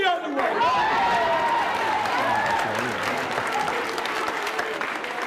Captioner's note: crowd cheers and applauds